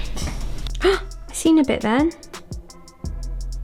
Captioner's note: gasps